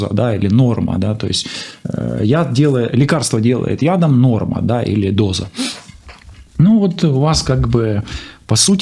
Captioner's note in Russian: фыркает